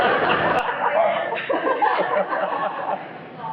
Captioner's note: laughs, cheers; laughs